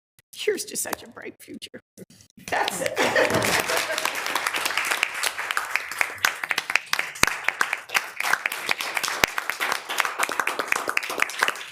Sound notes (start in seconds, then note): 3.8 people clapping